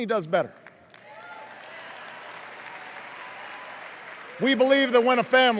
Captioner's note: cheers and applause